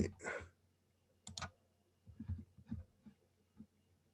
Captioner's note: mouse clicking